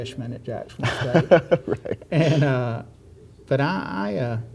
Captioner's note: laughs